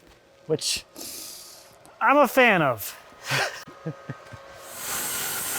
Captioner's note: laughing; saw humming